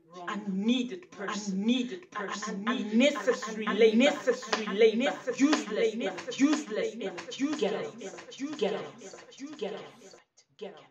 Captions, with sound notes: unneeded person, unnecessary labor, useless energy. Get out of my sight![echo fades out]